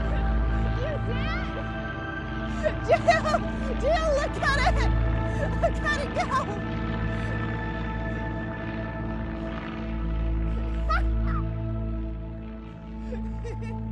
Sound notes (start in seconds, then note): 2.5 laughs; 7.2 airplane engine roaring; 10.6 Andrea laughs